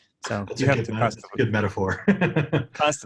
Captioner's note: laughs